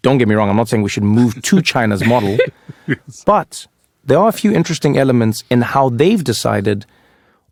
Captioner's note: laugh